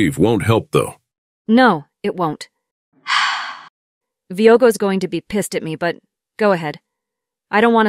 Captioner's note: sighs